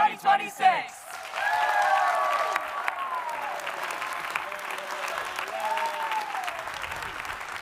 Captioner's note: audience applauding; audience cheering